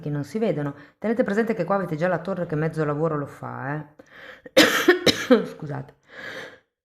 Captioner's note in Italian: tosse